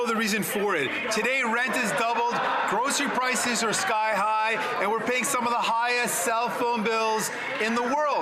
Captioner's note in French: voix de l'interprète